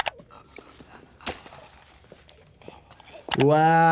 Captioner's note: labored breathing